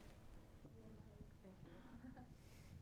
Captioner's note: speaks faintly; giggles